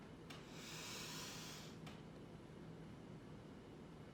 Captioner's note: deep breath